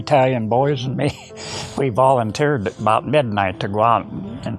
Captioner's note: chuckles